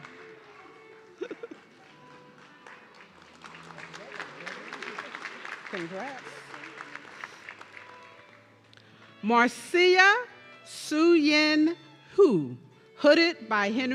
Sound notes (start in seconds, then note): 3.6 audience clapping